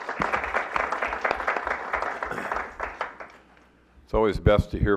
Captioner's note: clapping